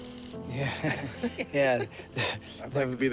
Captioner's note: laughs; chuckles